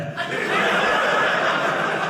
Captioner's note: audience laughing